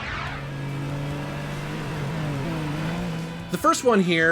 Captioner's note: car engine revs